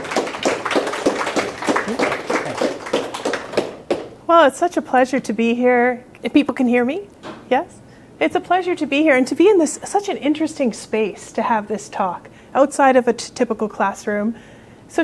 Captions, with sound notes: (audience applauding) Well, it's such a pleasure to be here. If people can hear me, yes. It's a pleasure to be here and to be in this such an interesting space to have this talk outside of a typical classroom.